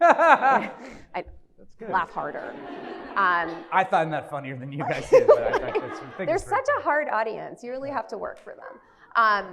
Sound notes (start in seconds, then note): 0.0 laughs; 1.9 audience laughs